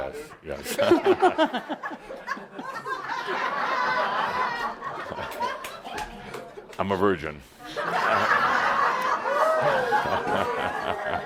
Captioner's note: laughter